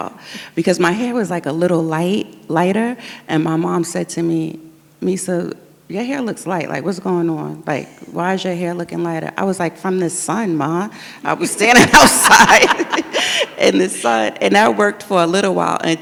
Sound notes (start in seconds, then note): 11.7 audience laughs